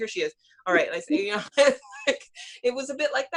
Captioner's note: laughs